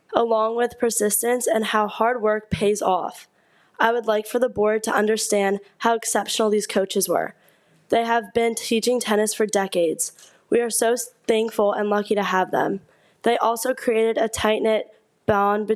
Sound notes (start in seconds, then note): none